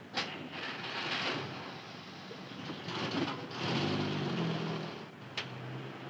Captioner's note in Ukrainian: хлопають двері, заводиться двигун